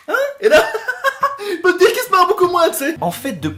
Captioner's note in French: Rire